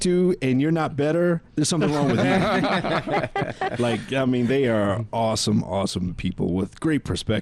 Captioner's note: laughing